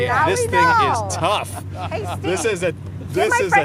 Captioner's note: laughter